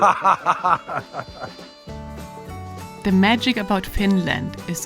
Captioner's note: person laughing